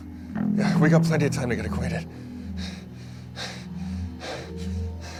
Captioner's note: pants